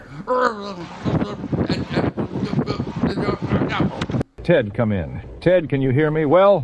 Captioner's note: transmission breaking up